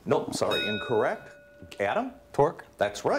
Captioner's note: bell rings